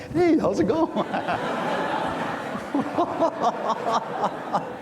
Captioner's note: everyone laughs